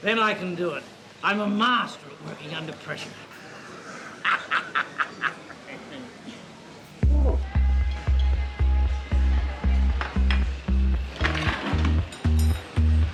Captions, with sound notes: - Then I can do it. I'm a master at working under pressure. (Alfred laughs) (electronic dance music)